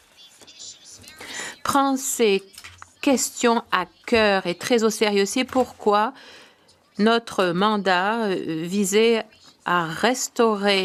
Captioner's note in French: voix de l'interprète